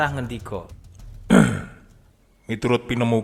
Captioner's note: clears his throat